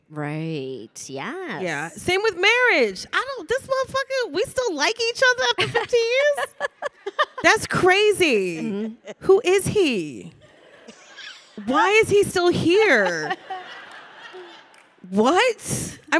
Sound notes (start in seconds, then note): 5.6 panelists laughing; 10.4 audience laughing; 12.4 audience laughing